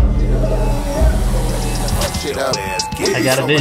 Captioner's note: drone buzzing